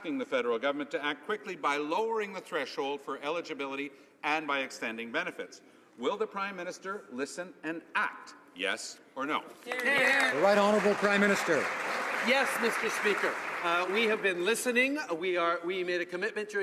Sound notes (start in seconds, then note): 12.5 some Applause